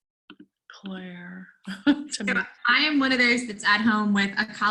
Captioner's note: laugh